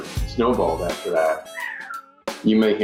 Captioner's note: cat meows